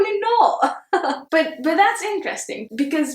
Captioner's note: chuckles